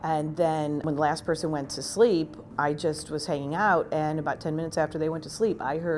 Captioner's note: none